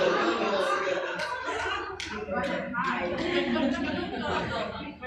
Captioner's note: audience chattering